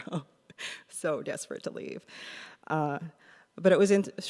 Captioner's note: laughs